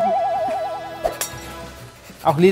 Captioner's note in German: Klirren